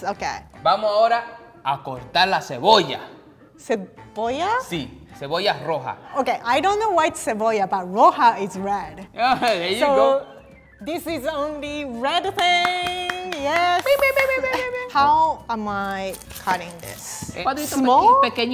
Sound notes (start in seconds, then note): 1.2 speaking in foreign language; 7.3 speaking in foreign language; 12.2 clapping and cheering